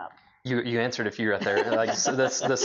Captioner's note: laughs